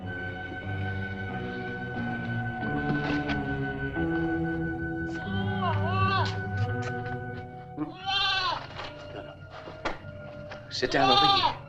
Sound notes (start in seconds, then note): 0.0 tense music; 5.5 goat bleating